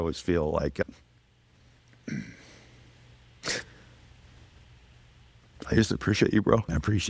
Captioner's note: getting choked up